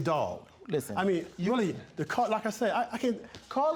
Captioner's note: stuttering